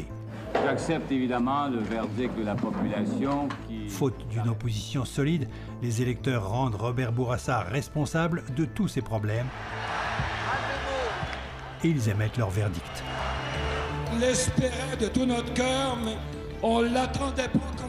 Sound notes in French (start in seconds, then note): 9.5 cris de foule